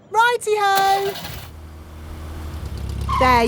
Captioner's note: car engine starts